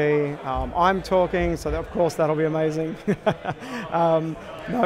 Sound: laughs

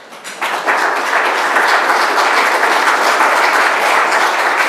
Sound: applause

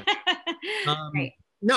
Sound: laughing

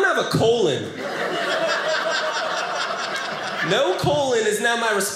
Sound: audience laughing

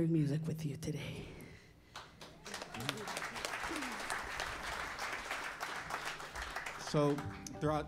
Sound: applause

